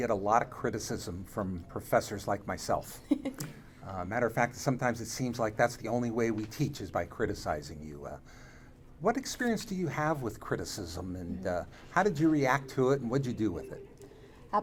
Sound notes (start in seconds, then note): 3.0 laughs